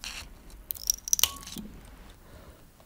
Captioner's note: cracking